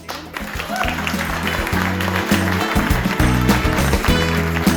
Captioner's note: applause